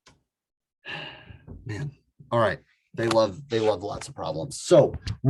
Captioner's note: sighs